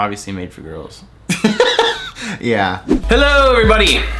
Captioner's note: laughs